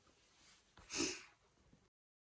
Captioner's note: sniffles